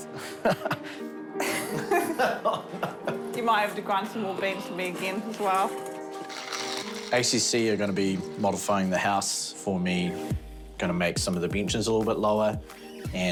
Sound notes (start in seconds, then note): 1.4 both laugh; 1.4 laughs